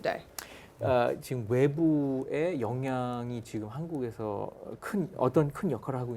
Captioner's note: speaking in Korean